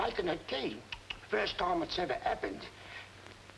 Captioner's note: Harry clicking tongue